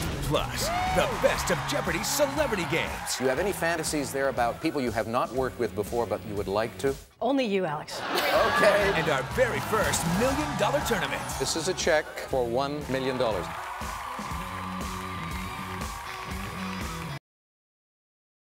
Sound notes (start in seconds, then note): 8.3 audience cheers; 13.6 audience cheering; 13.6 upbeat music